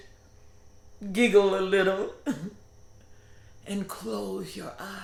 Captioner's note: giggles